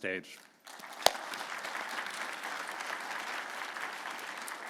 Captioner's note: audience applauding